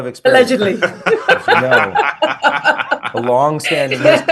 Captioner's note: group laughing